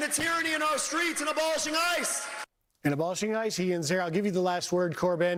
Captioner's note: cheers and applause